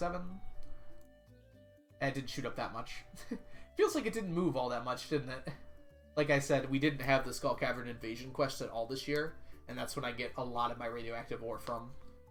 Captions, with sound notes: And it didn't shoot up that much. (laughs) Feels like it didn't move all that much, didn't it? Like I said, we didn't have the Skull Cavern Invasion quest at all this year, and that's where I get a lot of my Radioactive Ore from.